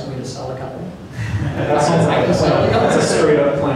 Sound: laughter

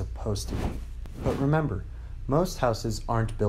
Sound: whooshing

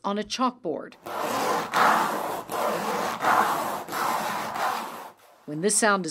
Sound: nails scraping on chalkboard

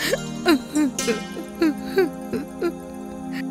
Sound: crying

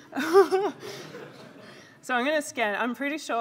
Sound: laughter; laughs

